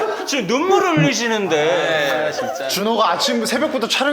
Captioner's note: tears from laughing